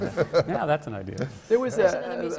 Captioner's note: laughter